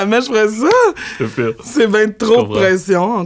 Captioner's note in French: rires